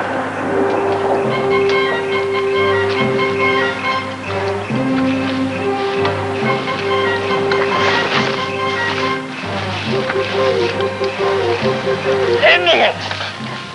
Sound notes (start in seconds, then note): 0.2 heroic music; 3.2 grass crunching